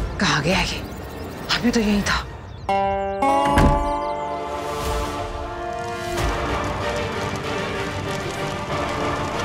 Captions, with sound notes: Where is he gone? He was right here a while ago. [door thuds] [inspirational music]